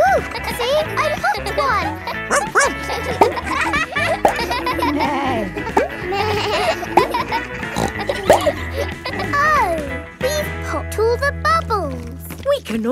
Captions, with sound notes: -Whoo! -(KIDS LAUGHING) See, I popped one. (BARKS) -(NEIGHS) -(BLEATS) (SNORTS) Oh! We've popped all the bubbles!